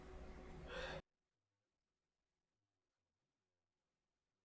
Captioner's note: silence; silence